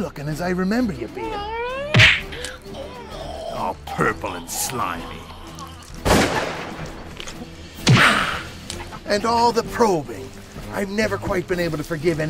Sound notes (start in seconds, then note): 1.8 slugging; 6.0 gun firing